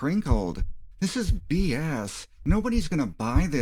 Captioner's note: heartbeats